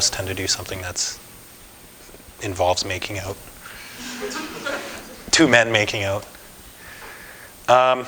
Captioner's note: audience: Laughter